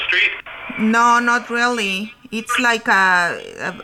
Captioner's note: voiceover